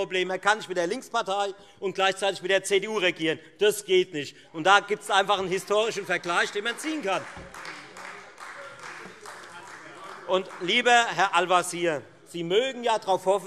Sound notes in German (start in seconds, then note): 7.9 Beifall